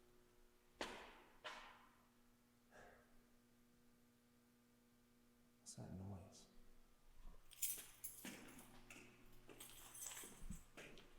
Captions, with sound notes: What's that noise? (keys clanging)